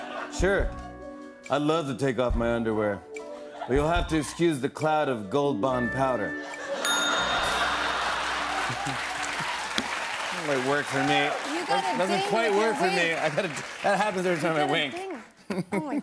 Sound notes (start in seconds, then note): 6.1 ding!; 7.2 laughter